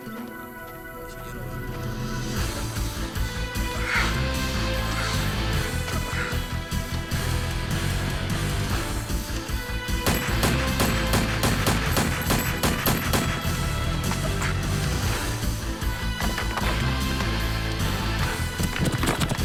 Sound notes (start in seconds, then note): 2.3 slow dramatic music; 10.0 gun fires